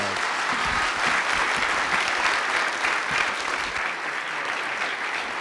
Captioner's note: audience applause